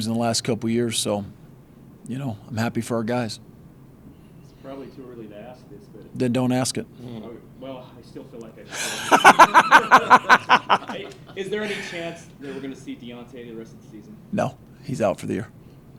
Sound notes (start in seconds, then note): 8.7 laughing